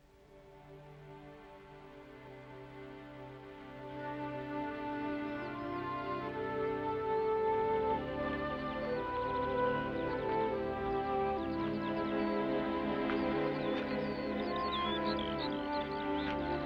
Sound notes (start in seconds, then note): 0.2 ominous sentimental music; 5.5 birds chirping; 5.5 ominous sentimental music